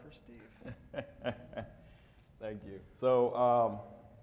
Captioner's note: laughing